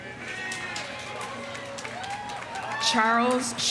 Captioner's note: audience cheering; audience applauding